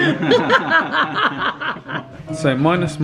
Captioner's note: they laugh